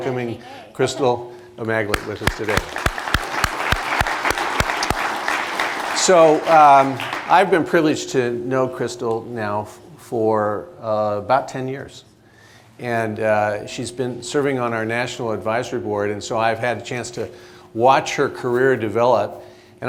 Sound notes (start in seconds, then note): 1.9 applause